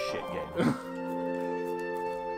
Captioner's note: laughs